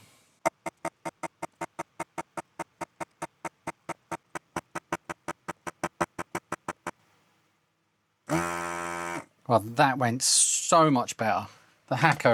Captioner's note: buzzer